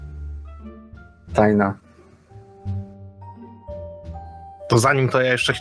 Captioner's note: none